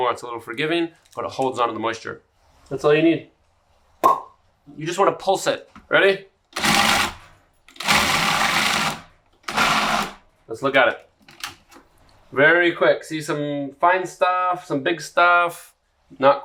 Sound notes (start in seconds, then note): 4.2 loud popping; 7.7 food processor whirring